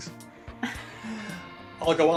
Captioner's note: laughs